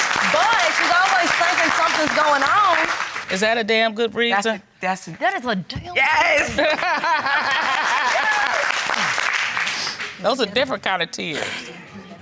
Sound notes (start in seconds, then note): 6.4 laughs